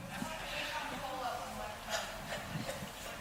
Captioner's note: murmuring